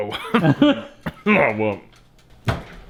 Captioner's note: coughing